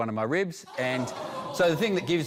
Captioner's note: all exclaim